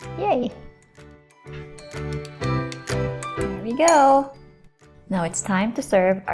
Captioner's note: spoon clanking